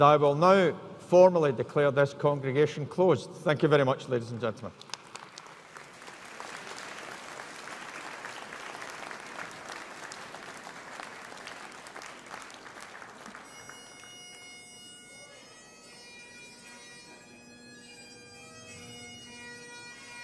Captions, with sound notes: And I will now formally declare this congregation closed. Thank you very much, ladies and gentlemen. (AUDIENCE APPLAUDING) (BAGPIPES PLAY)